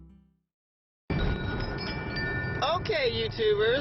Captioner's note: wind chimes